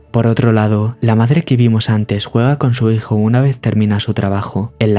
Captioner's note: none